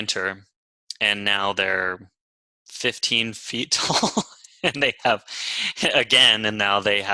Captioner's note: laughs